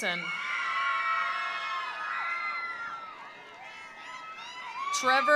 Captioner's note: attendees cheering; attendees applauding